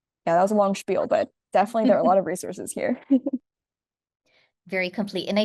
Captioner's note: laughs